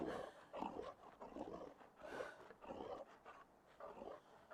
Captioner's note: light growling